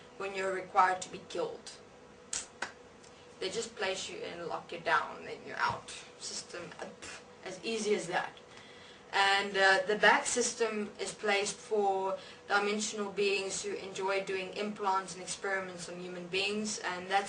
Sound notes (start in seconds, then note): 8.5 phew